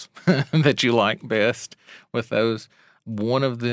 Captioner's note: laughs